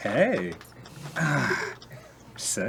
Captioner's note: winces a little in pain